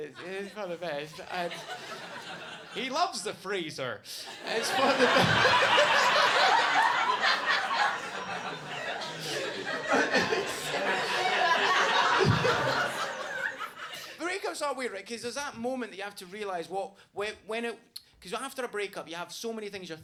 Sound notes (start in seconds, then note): 6.7 laughing; 7.8 audience laughing